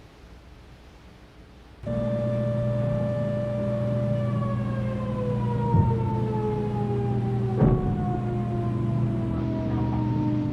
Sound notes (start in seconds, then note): 2.3 sirens; 7.7 explosions